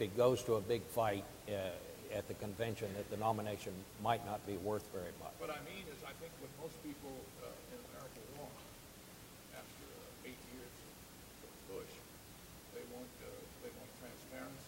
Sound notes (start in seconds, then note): none